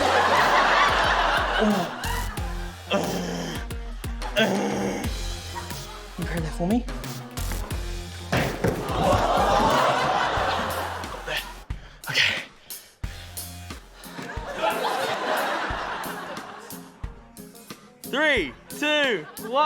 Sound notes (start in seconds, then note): 0.0 laughter; 4.3 groans; 8.3 thud!; 14.1 laughter